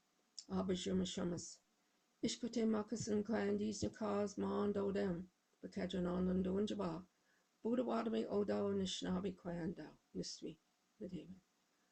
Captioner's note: speaking Indigenous language